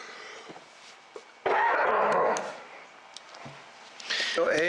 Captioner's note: coughs